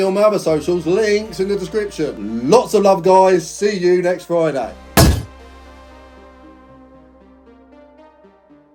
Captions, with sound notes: on my other social links in the description. Lots of love guys. See you next Friday. (ball smacking head) (spacey music)